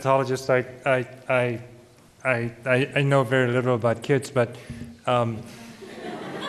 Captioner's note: laughter